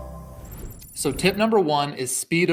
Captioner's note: air whooshing